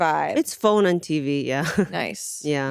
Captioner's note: laughs